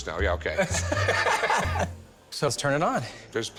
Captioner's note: laughter